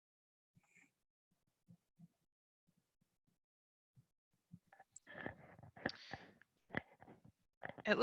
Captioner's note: pause